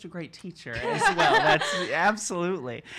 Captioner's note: laughing